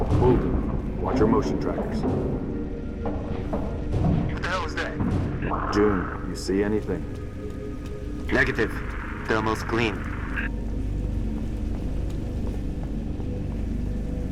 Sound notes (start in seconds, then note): 8.4 radio